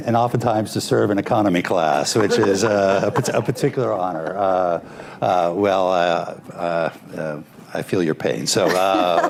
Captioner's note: laughter; laughter